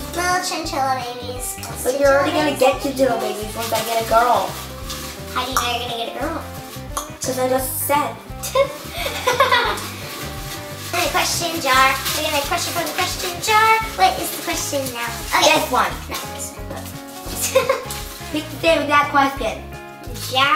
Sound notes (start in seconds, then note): 4.3 rustling; 8.4 laughing; 17.4 laughing